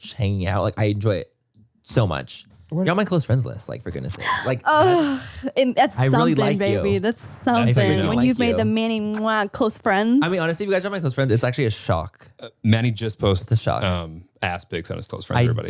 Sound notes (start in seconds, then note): 4.8 gasps; 9.1 smooches